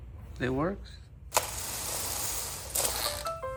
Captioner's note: not working noises